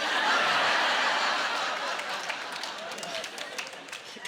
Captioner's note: laughing